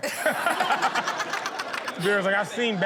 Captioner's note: audience laughs